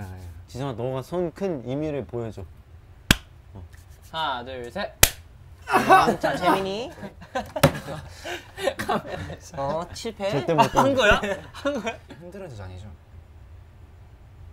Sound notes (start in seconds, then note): 3.0 slap; 5.0 clap